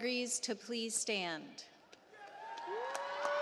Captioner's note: applause